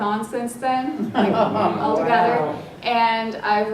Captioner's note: laugh